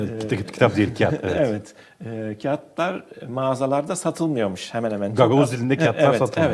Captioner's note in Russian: на гагаузском